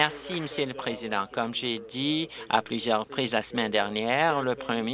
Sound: applause

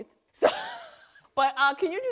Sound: laughs

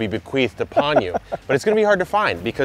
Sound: laughs

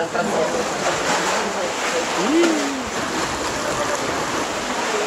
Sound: ocean sloshing

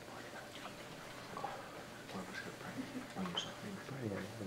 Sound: audience speaking faintly

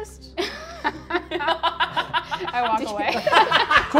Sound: laughs

